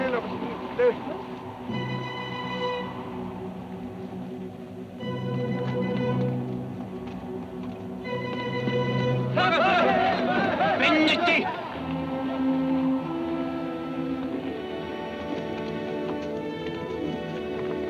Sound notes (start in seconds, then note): 9.4 Apaches shout; 11.2 Delgadito speaking foreign language; 13.2 tense music